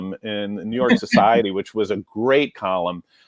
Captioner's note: giggles